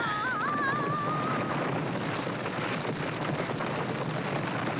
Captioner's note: ice and snow crashing